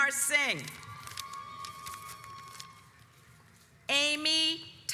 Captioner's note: audience applauds